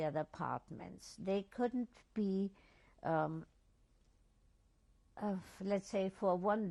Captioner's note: pauses for 3 seconds